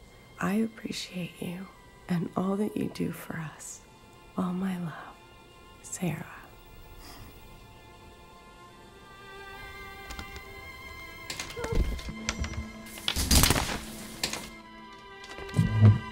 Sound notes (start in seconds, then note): 11.1 calls from the bathroom